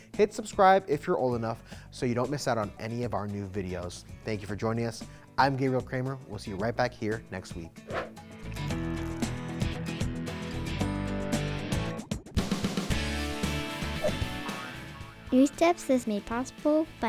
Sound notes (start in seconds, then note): 7.9 air whooshes; 8.5 upbeat music; 13.9 air whooshes; 13.9 globe boinging